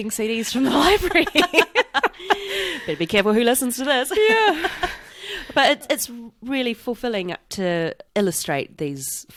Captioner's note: laughs